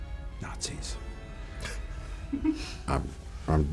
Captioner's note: James and Phoebe giggle